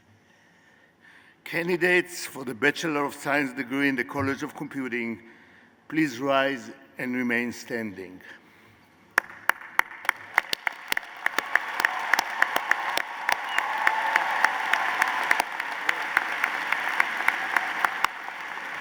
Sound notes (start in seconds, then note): 9.2 applause